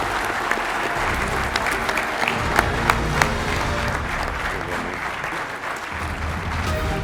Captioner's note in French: applaudissements